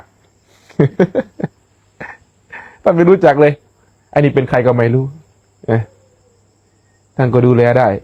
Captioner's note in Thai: เสียงหัวเราะ